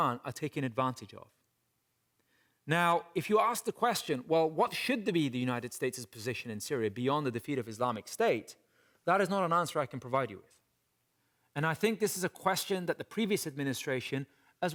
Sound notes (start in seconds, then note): none